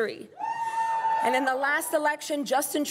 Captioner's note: crowd cheering and applauding